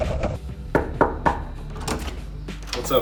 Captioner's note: knocking